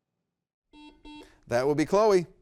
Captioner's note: buzzer beeps